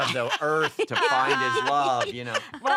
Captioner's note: laughter